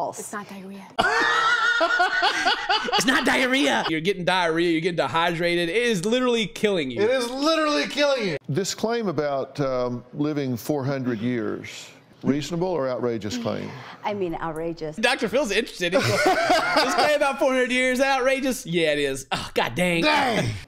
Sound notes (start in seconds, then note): 1.0 laughter